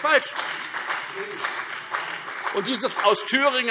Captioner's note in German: Beifall Freie Demokraten, CDU und BÜNDNIS 90/DIE GRÜNEN